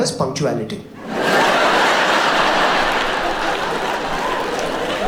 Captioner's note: audience laughs